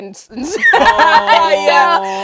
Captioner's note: laughs